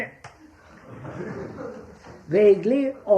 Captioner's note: laughter